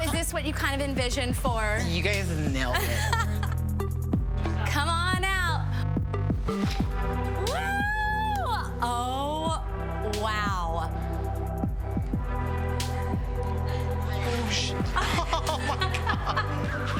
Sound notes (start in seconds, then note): 2.7 laughs; 14.2 both laugh